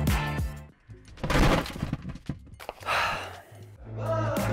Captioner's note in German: seufzt